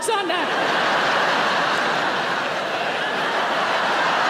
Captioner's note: audience laughing